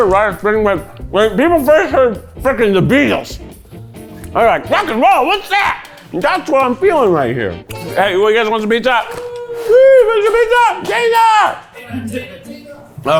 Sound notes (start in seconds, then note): 9.0 crew cheers